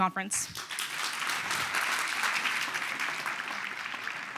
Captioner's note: applause